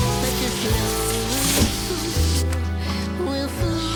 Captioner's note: thunk